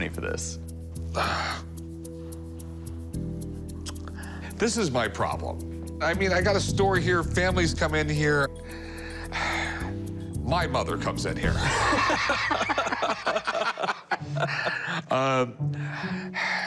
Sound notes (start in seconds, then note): 11.6 laughter